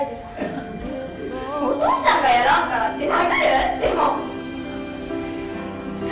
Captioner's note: laughs